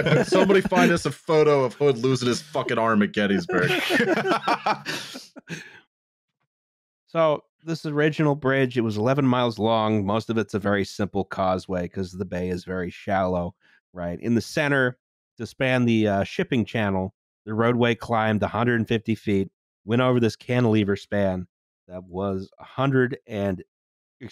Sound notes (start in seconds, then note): 0.0 laughter; 3.2 laughter